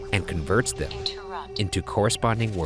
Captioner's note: automated Voice